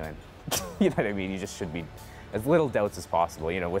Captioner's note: laughs